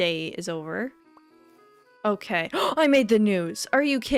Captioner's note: gasp